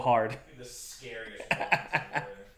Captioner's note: laughing